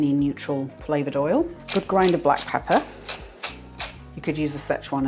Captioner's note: pepper mill grinding